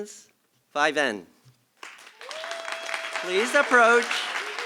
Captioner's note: applause